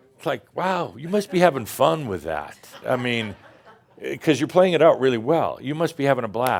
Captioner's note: a few chuckles